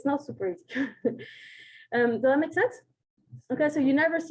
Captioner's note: chuckles